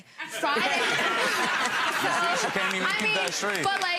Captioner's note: audience laughs